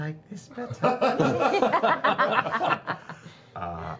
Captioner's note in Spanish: risas